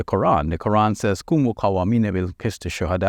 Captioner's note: speaking in Arabic language